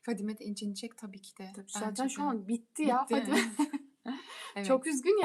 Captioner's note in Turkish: kahkaha